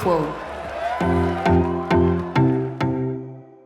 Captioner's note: cheering and applause